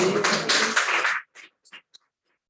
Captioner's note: participants clapping